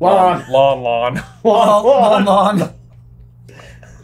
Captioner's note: laughing